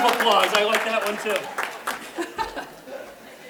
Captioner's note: clapping